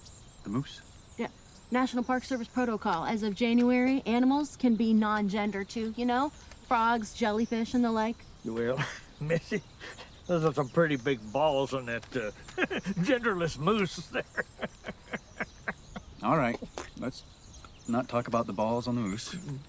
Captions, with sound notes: - The moose? - Yeah, National Park Service protocol, as of January. Animals can be non-gender too, you know? Frogs, jellyfish, and the like. - Well, missy, those are some pretty big balls on that genderless moose. (truck driver laughs) - All right. Let's not talk about the balls on the moose.